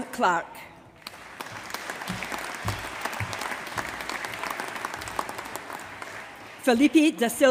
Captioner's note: applause